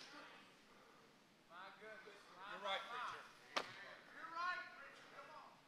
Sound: congregation cheers

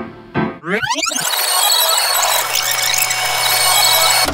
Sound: tape whirring

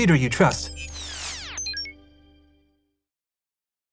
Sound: scene beeps

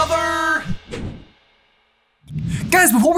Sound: logo whooshing

